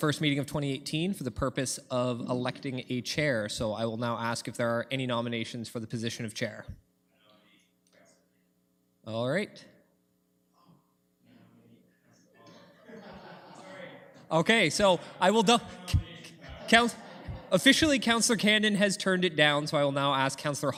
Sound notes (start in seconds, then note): 12.4 laughter